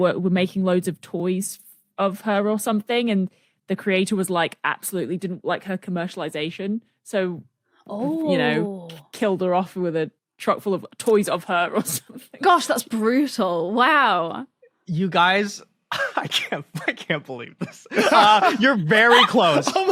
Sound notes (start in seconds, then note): 17.5 group laughing; 17.6 cracks up